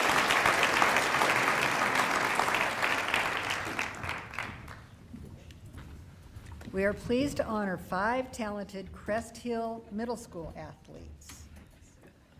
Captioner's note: applause